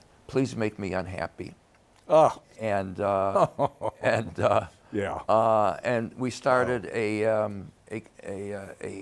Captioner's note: laughs